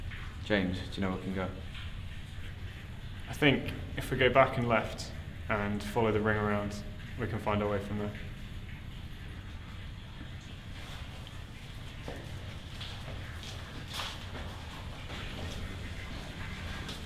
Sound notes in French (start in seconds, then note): none